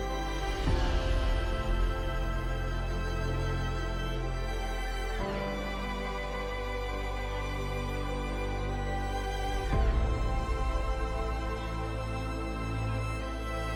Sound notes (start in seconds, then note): none